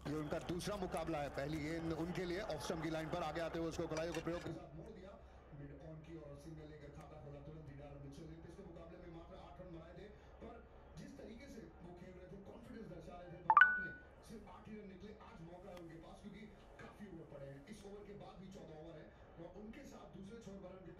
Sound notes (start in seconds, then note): 13.5 phone Beep